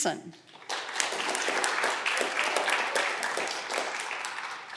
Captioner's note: audience clapping